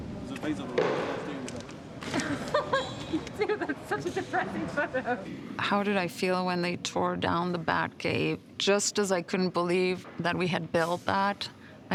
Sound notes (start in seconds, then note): 2.1 woman laughs